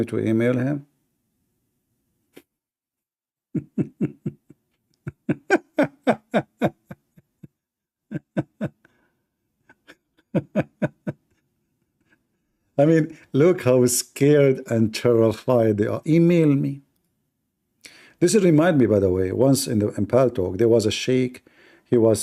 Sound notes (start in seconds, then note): 4.9 Ketawa